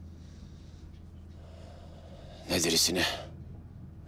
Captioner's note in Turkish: İç çekiyor